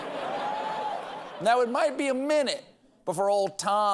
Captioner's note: laughter